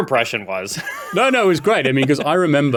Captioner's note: laughs